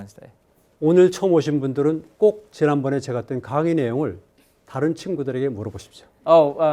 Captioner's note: speaking in Korean